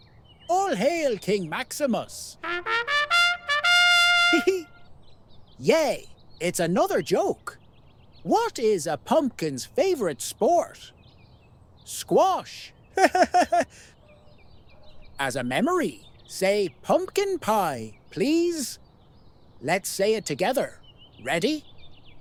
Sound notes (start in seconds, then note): 2.3 trumpets; 13.0 laughs